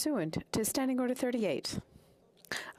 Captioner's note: speaking French